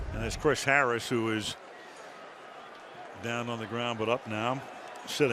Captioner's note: cheering